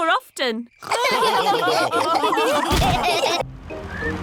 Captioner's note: all laughing